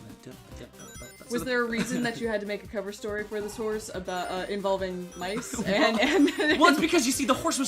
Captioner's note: both laughing